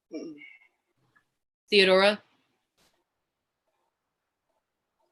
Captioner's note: none